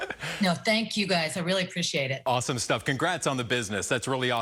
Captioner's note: laughter